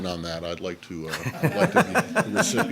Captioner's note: laughter